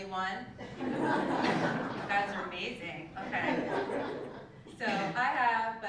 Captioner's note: laugh